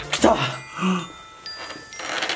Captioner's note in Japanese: 息を呑む